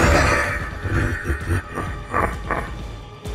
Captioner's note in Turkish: Tekrar Gülüyor